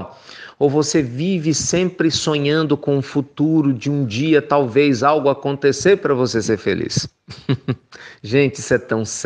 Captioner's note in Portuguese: risos